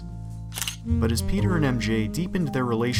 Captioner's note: camera shutter